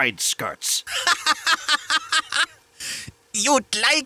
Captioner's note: laughs in bratwurst